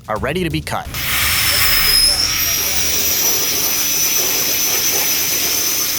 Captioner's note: laser table whirring